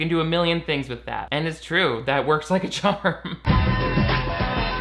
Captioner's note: chuckles; upbeat music